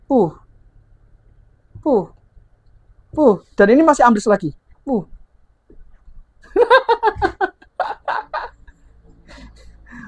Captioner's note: laughs